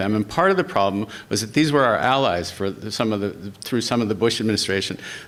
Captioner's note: none